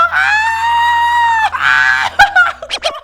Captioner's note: screaming